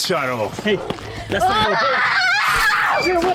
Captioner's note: Mia screaming and running